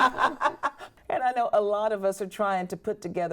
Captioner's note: women laughing